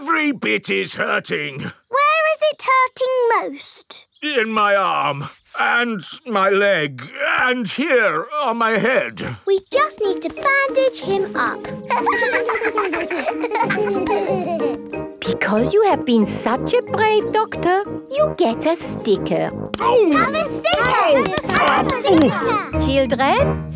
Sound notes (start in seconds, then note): 11.8 laughter